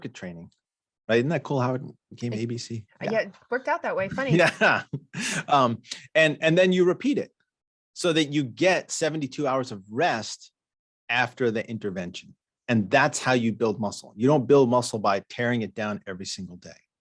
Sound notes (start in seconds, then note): 4.1 chuckles